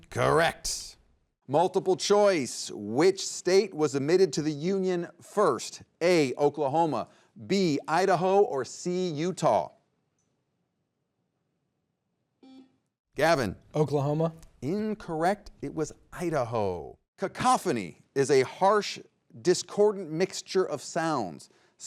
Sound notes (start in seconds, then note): 12.4 buzzer beeps